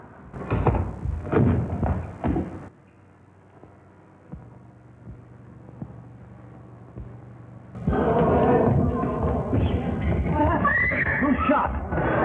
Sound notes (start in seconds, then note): 0.3 footsteps; 7.8 excited crowd; 10.4 screams; 12.0 excited crowd